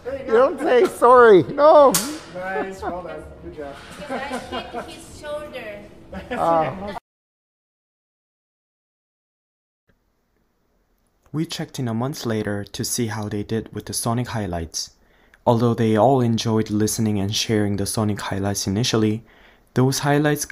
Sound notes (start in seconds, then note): 1.9 metallic clang continues; 2.3 laughter